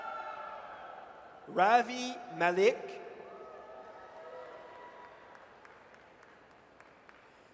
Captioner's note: audience cheers; audience cheers